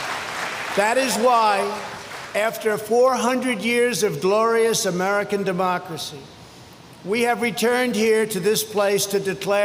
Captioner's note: applause